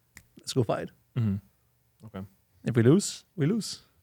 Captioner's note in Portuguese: estalando os dedos